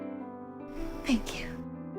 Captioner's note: voiceover